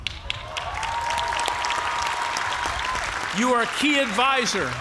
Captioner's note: cheers and applause